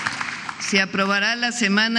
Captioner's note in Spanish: aplausos